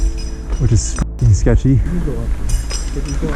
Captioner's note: beep